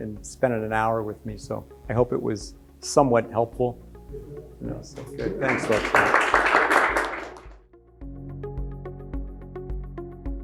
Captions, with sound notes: and spending an hour with me. So I hope it was somewhat helpful. (audience applauds) (upbeat music)